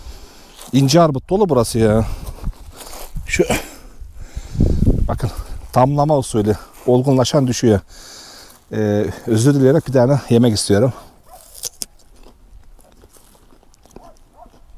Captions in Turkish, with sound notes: İnce armut dolu burası ya. Bakın tamlama usulü olgunlaşan düşüyor. Özür dileyerek bir tane yemek istiyorum. [Isırık sesi]